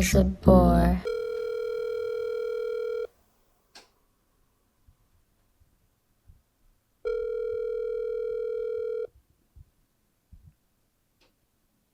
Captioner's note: phone rings